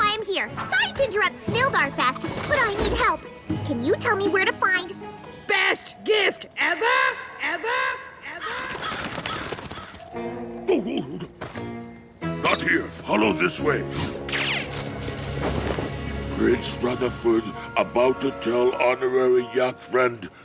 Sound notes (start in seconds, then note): 6.6 echoing; 8.4 crows cawing